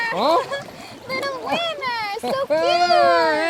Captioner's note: laughs